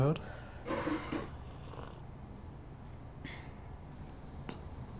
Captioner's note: gulps down